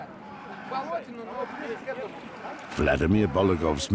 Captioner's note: speaking Russian